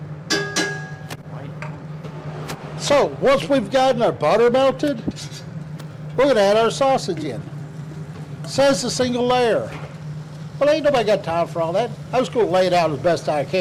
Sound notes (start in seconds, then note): 0.3 utensil thudding; 6.3 sausage sizzling